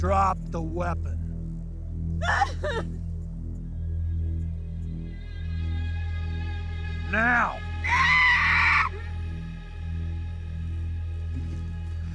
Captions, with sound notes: Drop the weapon. (Alexa crying) Now! (Alexa screaming)